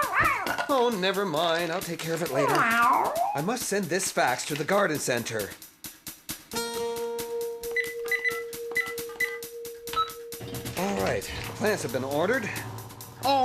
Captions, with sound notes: MEEOOWW? OH, NEVER MIND, I'LL TAKE CARE OF IT LATER. I MUST SEND THIS FAX TO THE GARDEN CENTER. ( Fax Machine Buttons Beeping ) ALL RIGHT, THE PLANTS HAVE BEEN ORDERED.